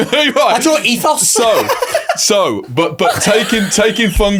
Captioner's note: laughing